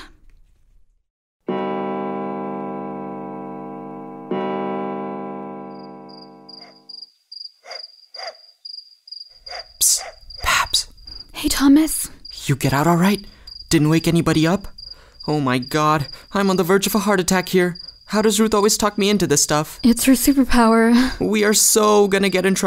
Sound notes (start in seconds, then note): 1.5 two clock chimes; 6.2 crickets, dog barking far away